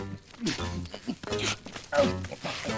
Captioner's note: grunting